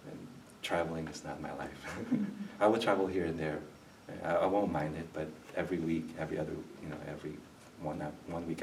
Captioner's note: laughs